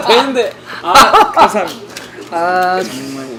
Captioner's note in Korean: 웃음